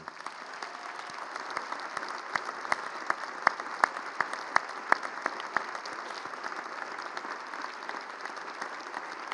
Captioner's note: applause